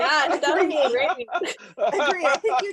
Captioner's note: all laughing